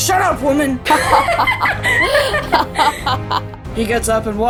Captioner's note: Katanah and Altair laughing